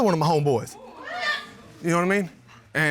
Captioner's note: audience exclaiming